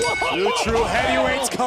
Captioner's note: bell ringing